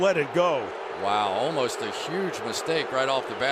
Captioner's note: booing